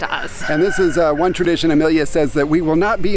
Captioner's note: rooster crowing